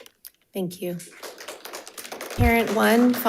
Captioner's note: crowd applauding